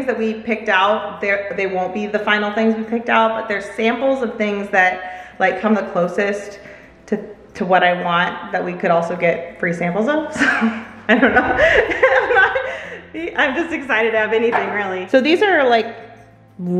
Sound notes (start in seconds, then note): 10.4 laughs